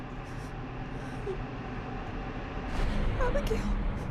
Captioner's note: Maria whimpers